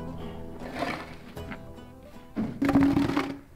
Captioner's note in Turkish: Kürek Sesi